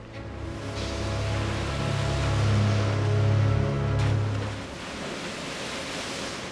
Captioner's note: water splashing